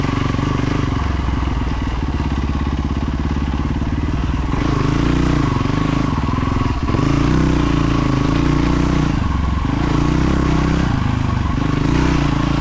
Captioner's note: engine revving